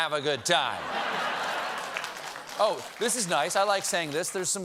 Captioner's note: laughter